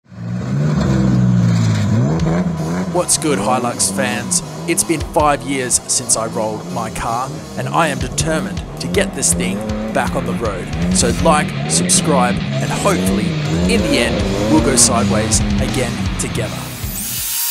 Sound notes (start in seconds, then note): 0.5 engine revving; 11.7 engine revving; 12.5 rock music; 16.6 mechanical whirring